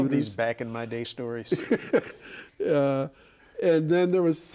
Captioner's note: laughing